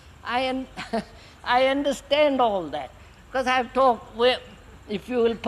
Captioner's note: laughs